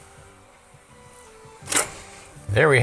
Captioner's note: clicking